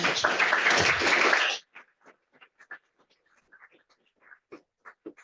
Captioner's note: applause